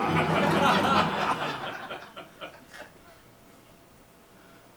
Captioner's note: audience laughs